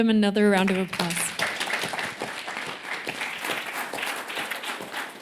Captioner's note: applause